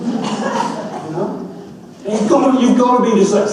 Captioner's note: laughter continues